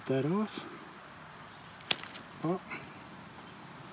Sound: pop

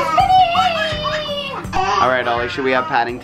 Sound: laughs

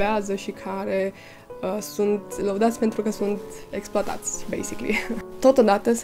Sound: laughs

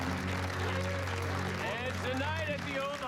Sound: cheering continues

